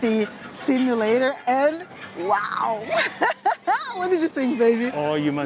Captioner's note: laughs